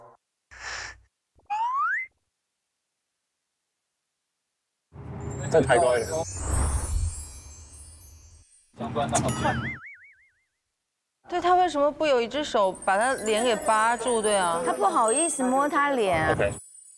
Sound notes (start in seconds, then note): 0.5 holding breath